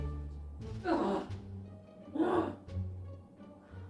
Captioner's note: grunting